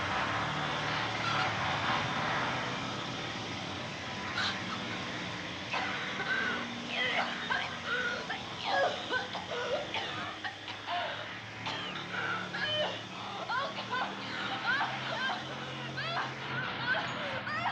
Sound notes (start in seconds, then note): 5.7 coughs and retches; 14.3 cries